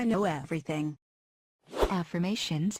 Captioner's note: Vietnamese